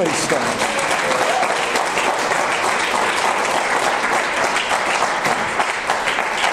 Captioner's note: audience applause